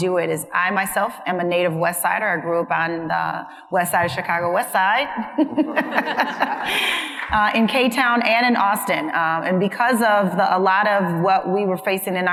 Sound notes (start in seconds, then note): 5.3 panelists laughing; 5.4 laughs; 6.6 audience member applauding